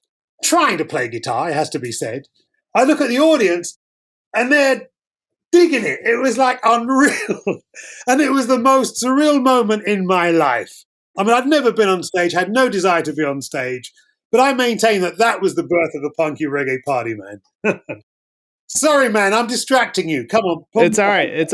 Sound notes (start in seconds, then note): 6.8 laughter; 17.6 laughter